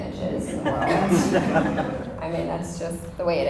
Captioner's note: audience chuckles